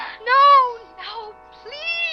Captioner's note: woman on Radio